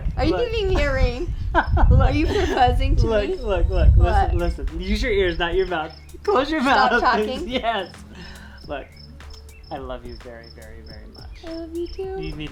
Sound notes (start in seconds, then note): 1.5 laughs